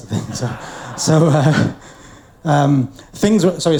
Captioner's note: audience laughs